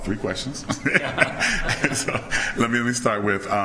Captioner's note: laughing